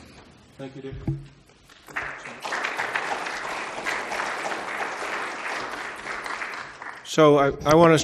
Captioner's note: applause